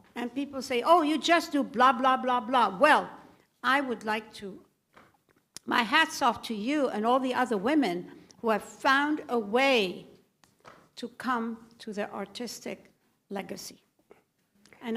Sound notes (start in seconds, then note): none